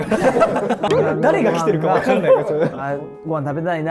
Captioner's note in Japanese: 一同：笑い